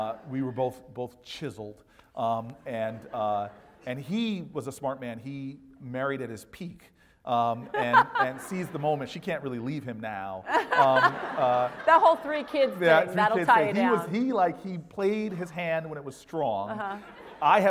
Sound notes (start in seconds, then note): 7.7 laugh; 10.5 laugh